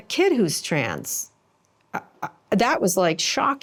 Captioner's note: stammers